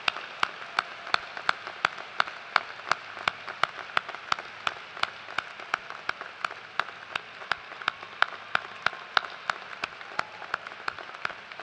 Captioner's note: cheers and applause